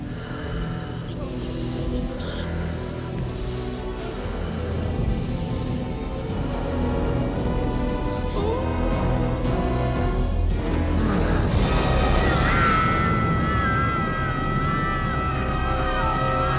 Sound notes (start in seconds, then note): 1.9 foreboding music builds; 8.4 boys whimpering; 11.5 foreboding music intensifies; 12.2 boys screaming